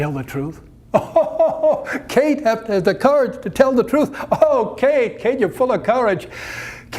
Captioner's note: laughter